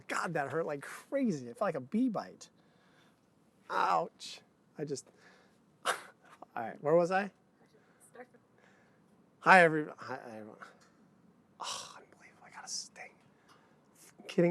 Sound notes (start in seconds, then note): 11.6 sighs; 11.6 mumbling to self